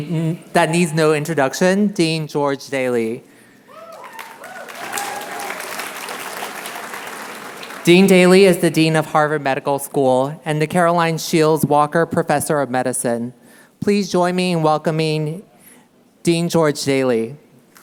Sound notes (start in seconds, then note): 3.8 applause